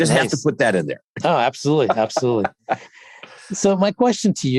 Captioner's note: laughs